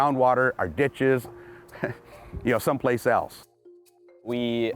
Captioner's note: laughs